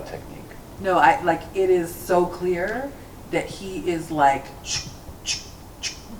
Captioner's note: makes sound effects